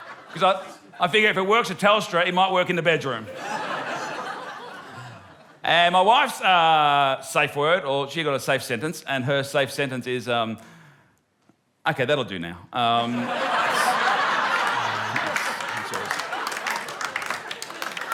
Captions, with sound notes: 'Cause I figure if it works with Telstra, it might work in the bedroom. And my wife's safe word, or she's got a safe sentence, and her safe sentence is... "..OK, that'll do now." (LAUGHTER) (APPLAUSE)